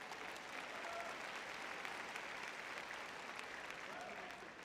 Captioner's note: audience applauding